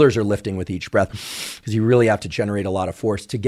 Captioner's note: inhales